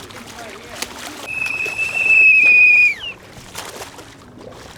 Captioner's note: whistle